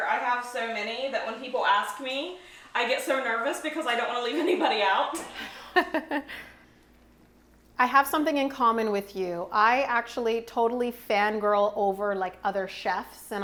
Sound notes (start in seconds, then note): 5.1 laughing